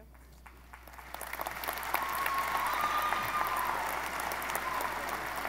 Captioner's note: audience applauding